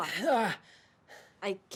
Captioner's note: Paxton groans